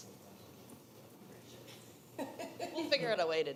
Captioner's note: attendees laughing